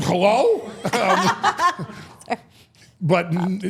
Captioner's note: all laughing